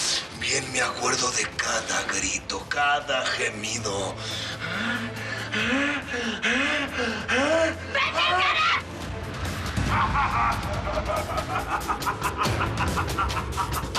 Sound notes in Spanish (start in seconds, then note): 4.6 Gemidos; 10.3 Risotada